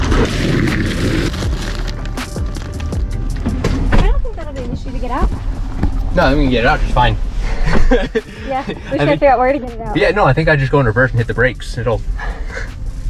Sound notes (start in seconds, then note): 0.0 upbeat music; 0.2 box slams on truck bed; 3.2 truck bed door closing; 7.4 laughs